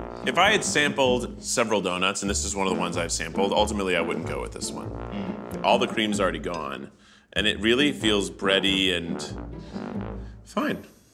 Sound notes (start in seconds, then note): none